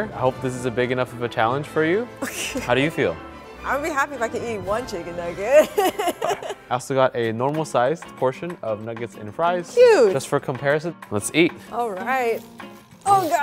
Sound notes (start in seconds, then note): 2.2 laughs; 5.6 laughs